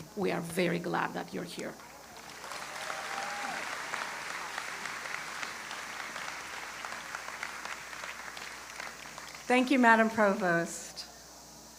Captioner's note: applause